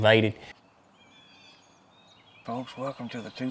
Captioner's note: bird sounds